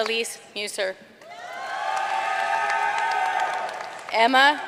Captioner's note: audience cheering and applauding